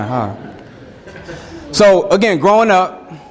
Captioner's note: students chuckling